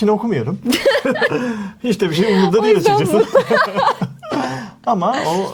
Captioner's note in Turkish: kahkaha